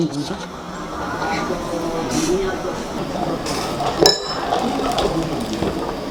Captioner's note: bam